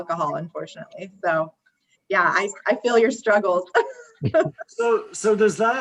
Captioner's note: laughs